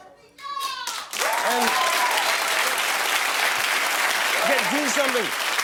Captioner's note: cheers and applause